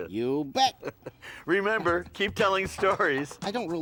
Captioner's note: laughs